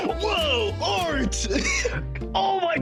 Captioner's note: laughing